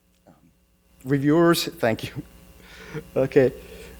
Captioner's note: laughs